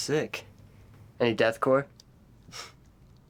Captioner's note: scoffs